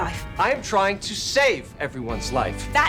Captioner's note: shouting